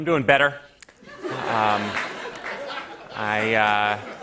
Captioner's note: laughter